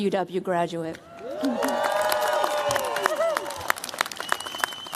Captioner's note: cheers, applause